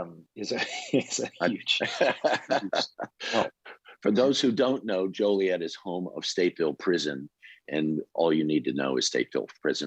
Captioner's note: laughter